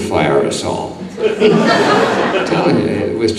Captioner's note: audience laughing